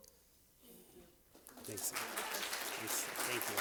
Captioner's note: applause